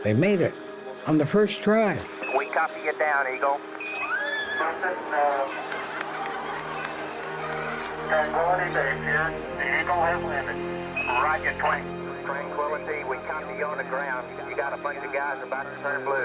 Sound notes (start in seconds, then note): 4.0 cheering